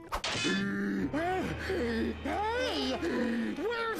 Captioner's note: gasping